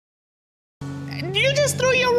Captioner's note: audience exclaiming